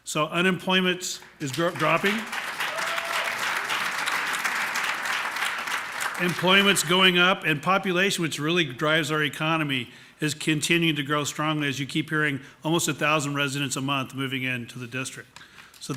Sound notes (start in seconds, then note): 3.9 applause